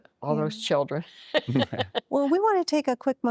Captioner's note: laughing